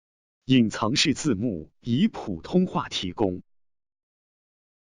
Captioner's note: speaking in foreign language